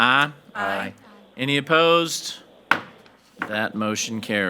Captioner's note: hammer slamming